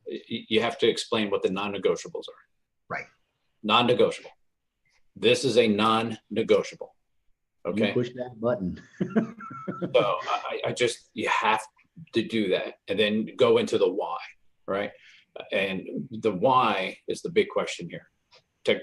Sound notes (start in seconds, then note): 8.8 laughs